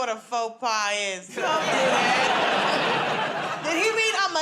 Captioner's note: laughter